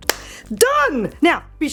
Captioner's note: claps